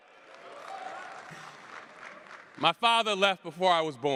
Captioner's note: cheers